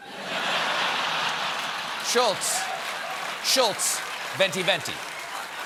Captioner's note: laughter; applause